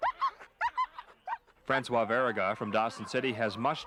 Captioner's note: dogs barking